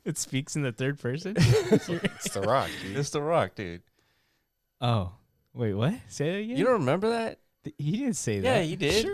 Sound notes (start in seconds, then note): 1.4 laughing